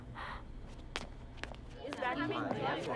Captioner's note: Footsteps